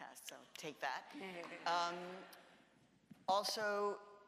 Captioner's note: audience laughs